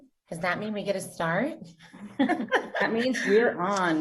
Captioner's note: laughs